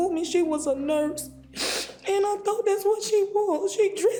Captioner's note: sniffles